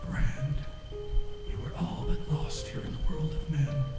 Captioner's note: disembodied Voice